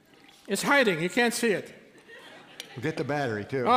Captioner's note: laughter